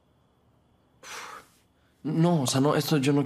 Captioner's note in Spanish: resopla